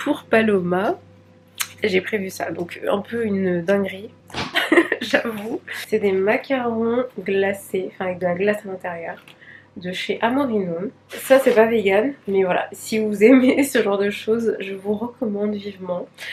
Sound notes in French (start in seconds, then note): 4.4 rires